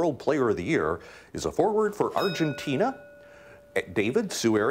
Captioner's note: bell rings